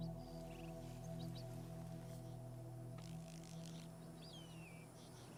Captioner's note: frogs croaking